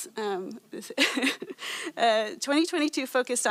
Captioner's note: laughs